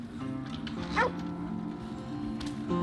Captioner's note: dog barks; few horses whine in the distance